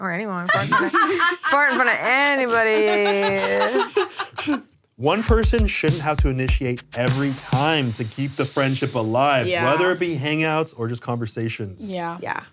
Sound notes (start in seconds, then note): 3.1 people laughing